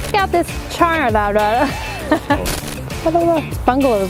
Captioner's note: laughs